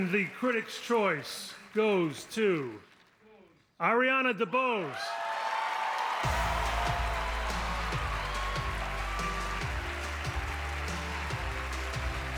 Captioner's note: speaking in spanish